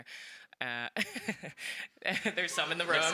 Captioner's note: laughs